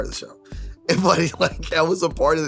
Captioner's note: laughs